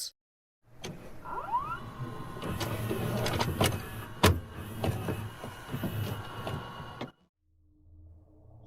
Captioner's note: VHS noises